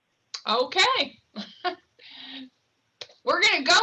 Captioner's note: chuckles